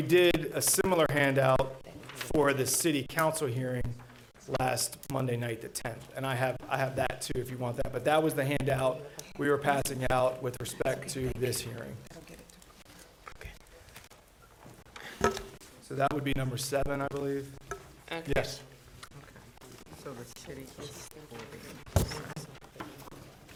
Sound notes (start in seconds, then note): 11.7 board chatting quietly; 19.0 board chatting quietly